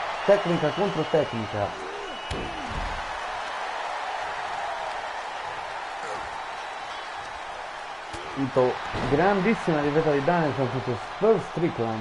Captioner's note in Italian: Applauso